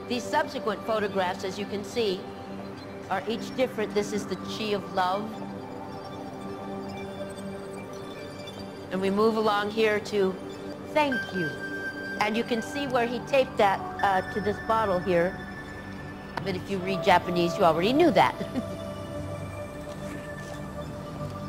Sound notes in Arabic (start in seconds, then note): 18.2 تضحك